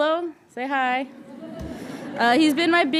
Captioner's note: audience chuckling